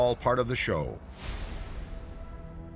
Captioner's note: light dramatic music; air whooshing